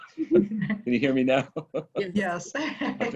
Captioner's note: laugh